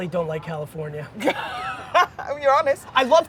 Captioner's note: laughing